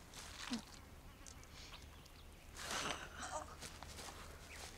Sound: substance squishing

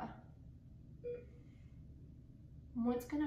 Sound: beeping

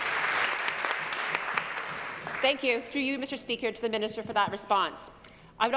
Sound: applause

